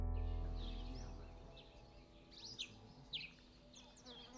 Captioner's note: birds chirping